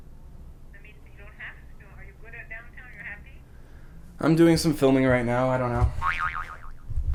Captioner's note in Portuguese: boing